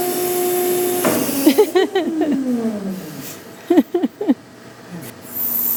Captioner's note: laughter